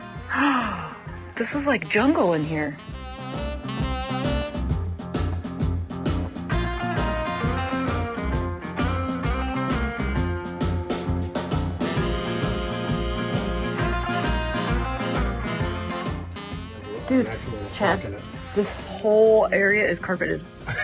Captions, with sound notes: (gasps) This is like a jungle in here. (upbeat music) Dude. Chad. This whole area is carpeted.